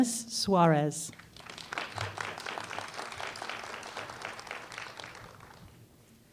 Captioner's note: applause